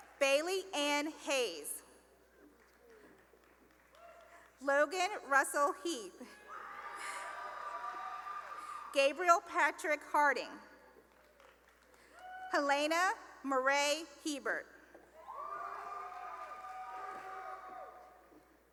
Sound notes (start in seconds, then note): 2.5 applause; 6.4 cheering; 10.7 cheering and applause; 15.1 cheering